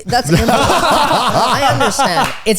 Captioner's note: all laughing